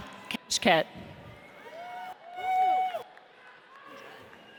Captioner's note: audience cheers